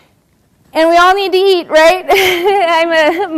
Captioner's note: laugh